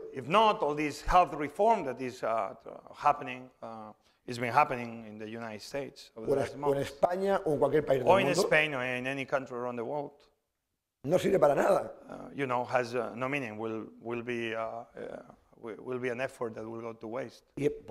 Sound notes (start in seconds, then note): 6.7 speaking spanish; 11.9 speaking spanish